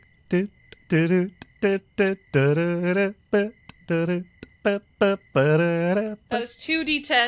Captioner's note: starts humming the elevator music